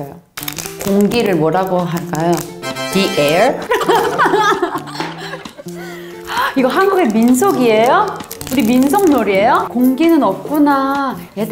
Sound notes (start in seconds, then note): 5.7 gasp